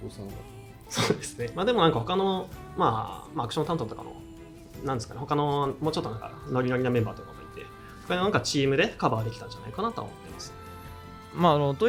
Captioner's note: laughs